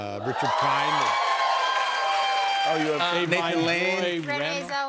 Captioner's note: cheers and applause